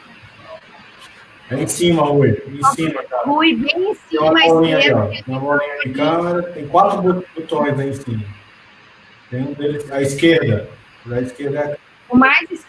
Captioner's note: multiple voices